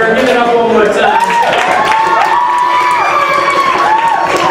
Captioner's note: applause